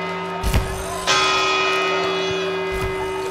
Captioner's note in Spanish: Cuarta campanada